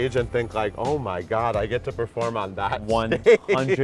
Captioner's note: laughs